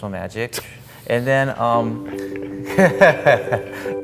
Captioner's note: laughter